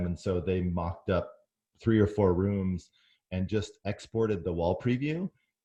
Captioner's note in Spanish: none